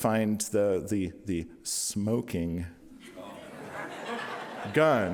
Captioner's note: audience laughing